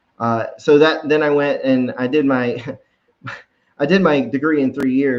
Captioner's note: chuckles